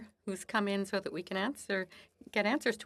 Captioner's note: speaking French